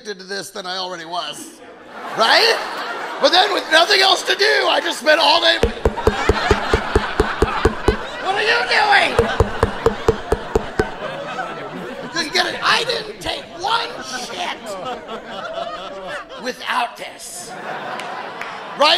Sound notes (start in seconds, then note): 5.5 mic taps; 6.9 audience laughing; 9.2 mic taps; 11.1 audience laughing; 17.0 audience laughing